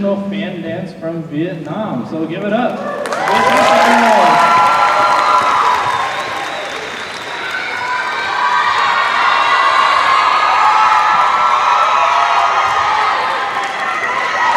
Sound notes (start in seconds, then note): 2.8 cheers and applause